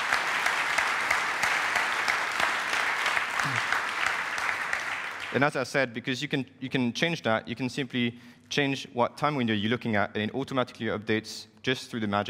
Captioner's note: applause